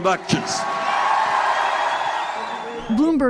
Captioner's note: cheering and applause